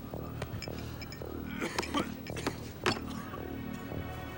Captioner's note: man coughs